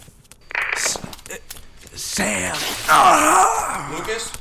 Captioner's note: radio